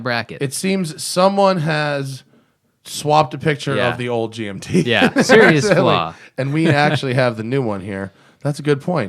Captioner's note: laughs